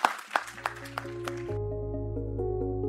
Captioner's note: applause